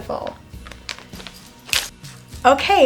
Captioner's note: fingers snapping